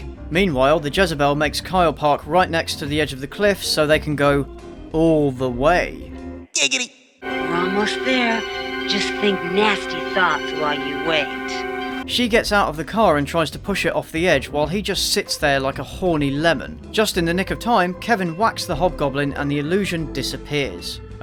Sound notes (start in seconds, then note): none